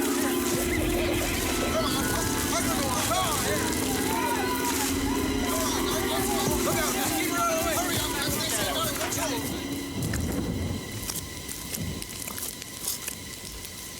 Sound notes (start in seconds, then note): 0.2 suspenseful music; 3.4 men yelling; 11.0 thunder rumbling